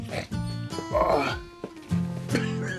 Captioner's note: GROANlNG